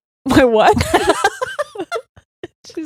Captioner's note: both laughing